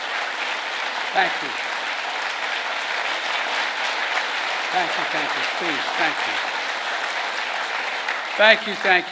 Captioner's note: applause